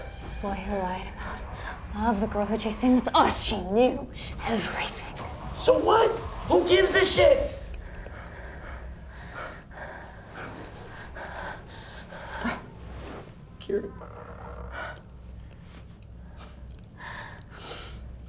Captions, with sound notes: - The boy who lied about love. The girl who chased fame. It's us! She knew everything. - So what? Who gives a shit? (both breathing heavily) Kira. (fire crackling)